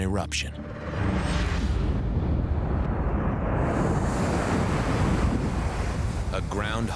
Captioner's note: explosion rumbling